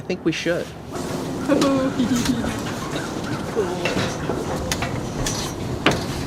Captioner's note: sound of walking up metal stairs; expresses a giddy laugh and comments: Cool!